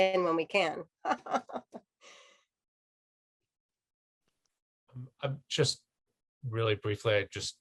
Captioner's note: laughter